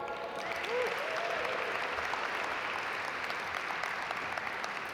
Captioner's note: audience applaud